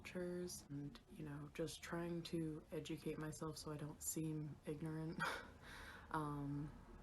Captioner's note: chuckles